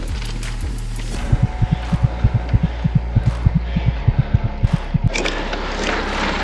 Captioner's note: heartbeat